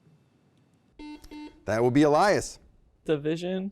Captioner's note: beeping